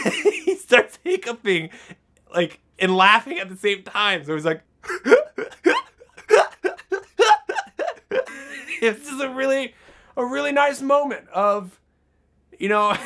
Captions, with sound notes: he starts hiccuping, and laughing at the same time, so he's like, (hiccuping laughter) This is a really, a really nice moment of, you know,